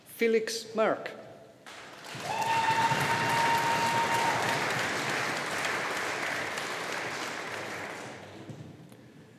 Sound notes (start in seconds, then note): 1.7 audience applauding